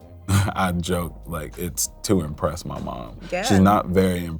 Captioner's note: laughs